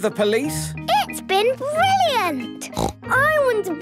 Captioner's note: snort